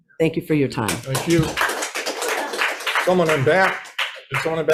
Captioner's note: audience applauds